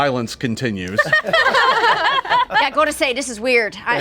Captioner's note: group laughing